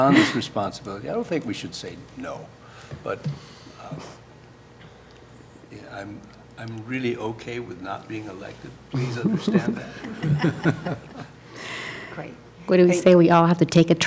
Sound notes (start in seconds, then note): 10.8 laughter